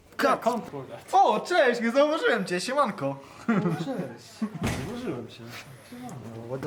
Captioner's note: laughs